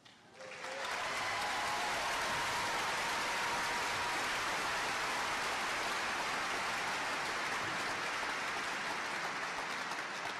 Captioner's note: applause